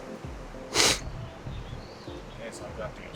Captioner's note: sniffles